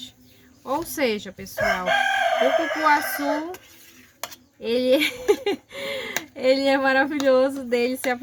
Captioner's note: laughs